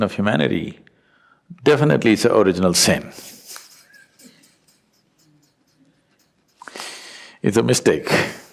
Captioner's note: laughs